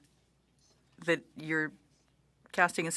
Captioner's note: speaking French